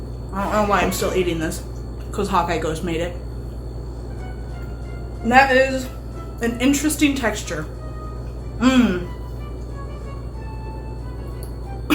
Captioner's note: coughs